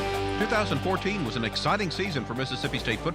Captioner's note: voiceover